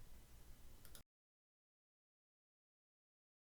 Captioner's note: mouse clicks